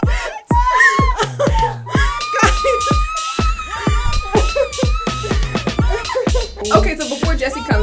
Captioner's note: squealing